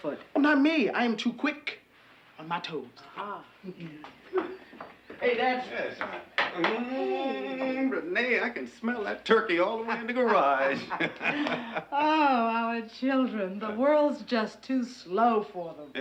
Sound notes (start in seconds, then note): 9.9 laughs